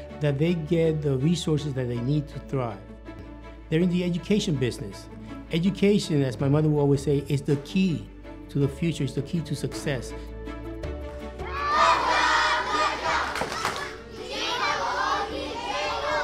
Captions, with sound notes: that they get the resources that they need to thrive. They're in the education business. Education, as my mother will always say, is the key to the future, it's the key to success. (children chanting and clapping)